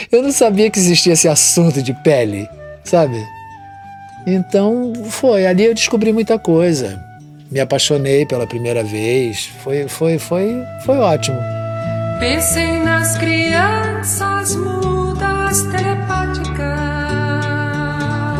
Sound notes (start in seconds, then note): 9.6 man stutters